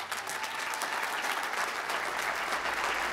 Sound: applause

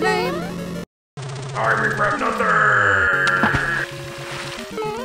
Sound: splash!

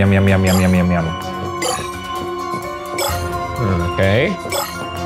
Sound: shards bleeping

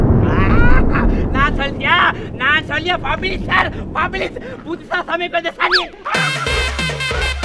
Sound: Speaking in Tamil

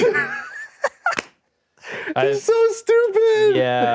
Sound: laughs

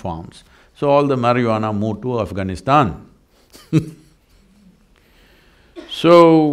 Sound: laughs

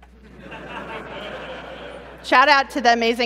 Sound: laughter

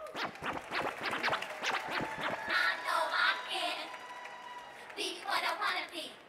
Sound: audience cheering; upbeat hip-hop music

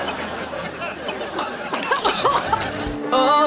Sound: coughing

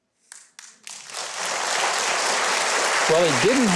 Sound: audience claps

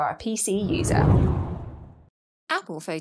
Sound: air whooshes

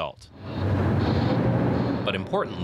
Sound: construction noises

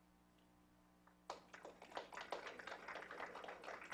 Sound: applause

